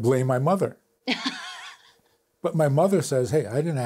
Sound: laughs

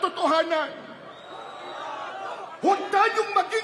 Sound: crowd chants: “Don’t hide it!”

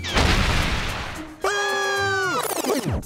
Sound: screaming

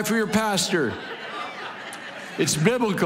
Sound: congregation laughing

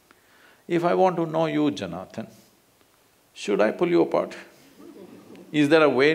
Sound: few laugh

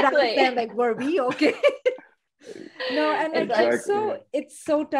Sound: laughs

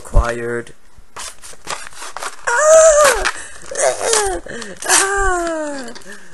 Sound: ripping

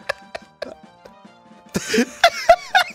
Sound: sputtering in disbelief

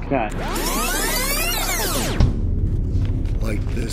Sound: audio rewind screeching

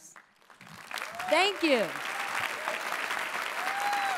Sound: applause

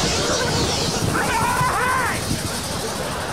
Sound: screaming

